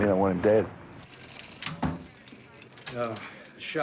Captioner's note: police radio chatter